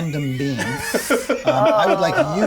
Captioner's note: players laughing